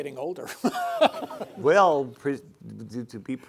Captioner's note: laughing